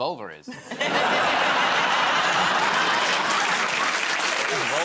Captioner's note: laughter